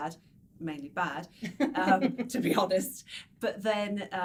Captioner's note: light laughing